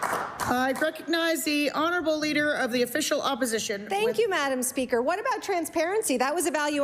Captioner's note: applause